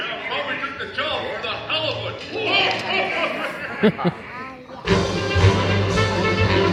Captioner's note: Muppets laughing; bright band music